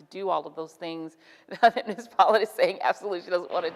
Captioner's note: laughs